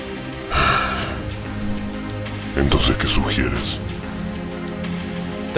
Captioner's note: sigh